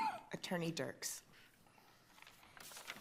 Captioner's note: coughs